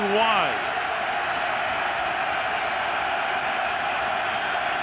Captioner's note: crowd cheering